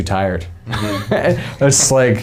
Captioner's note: men laughing